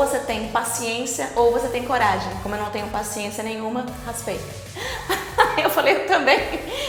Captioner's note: laughs